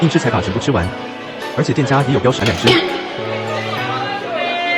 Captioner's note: laughs